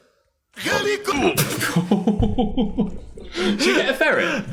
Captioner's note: Dan and Phil laugh